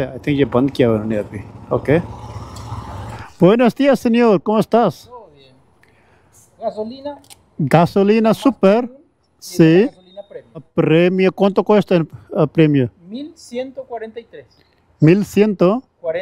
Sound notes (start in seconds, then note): 3.4 speaking in Spanish